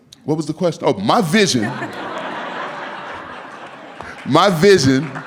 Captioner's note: laughing